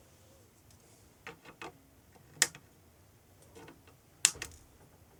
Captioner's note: clicking